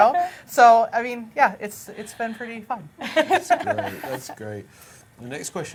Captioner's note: laughs